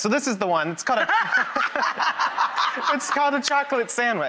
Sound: Rachael laughing

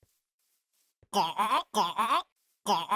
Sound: villager choking

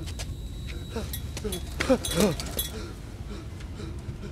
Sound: Dao panting

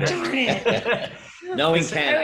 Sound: laughs

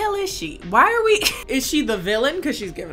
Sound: laughs

